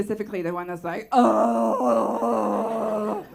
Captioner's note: moans